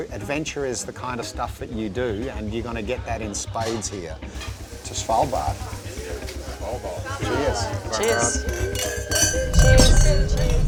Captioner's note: cheers